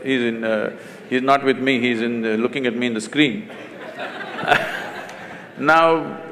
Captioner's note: laughter; 笑聲